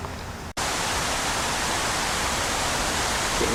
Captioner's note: wind Blowing Hard